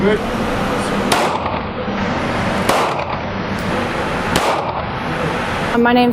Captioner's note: gunfire